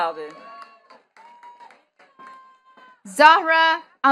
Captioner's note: attendees cheering and clapping